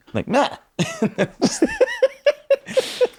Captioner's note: laughing